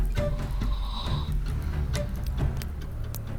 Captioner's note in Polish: chrapanie